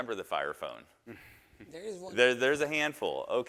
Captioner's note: chuckles